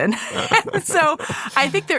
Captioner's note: laughing